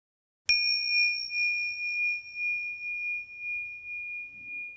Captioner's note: hight-pitched ringing